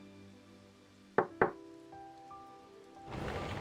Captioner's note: knock-Knock